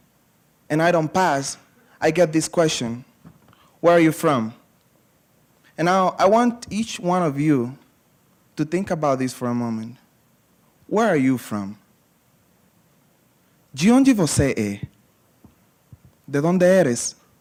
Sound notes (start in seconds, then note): 13.8 speaking portuguese